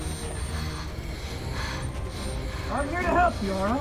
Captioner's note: girl breathes heavily